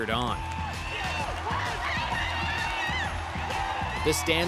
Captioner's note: cheering